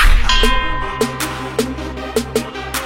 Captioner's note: ding; upbeat music